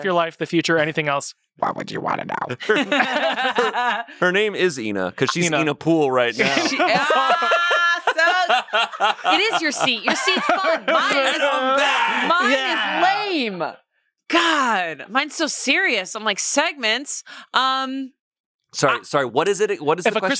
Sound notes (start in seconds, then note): 2.6 everyone laughs; 6.4 everyone laughs